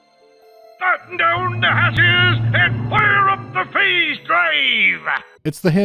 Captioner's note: eccentric, played-up piratey speke